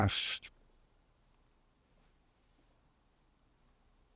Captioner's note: pauses 17 seconds